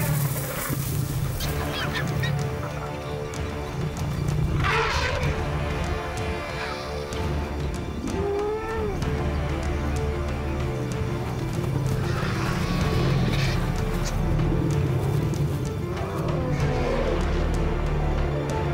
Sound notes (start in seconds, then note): 1.7 intense music; 4.5 elephant roars; 7.4 intense music continues